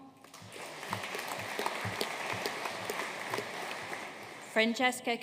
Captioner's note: audience applauding